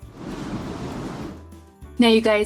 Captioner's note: air whooshes